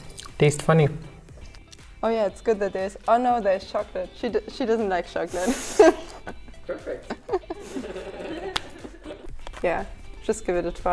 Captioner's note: laughter